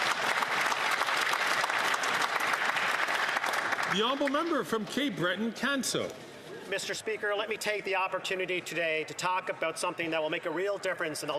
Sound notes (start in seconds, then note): 4.3 some Applause